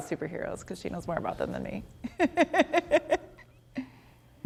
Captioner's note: chuckles